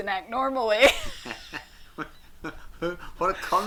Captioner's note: both laugh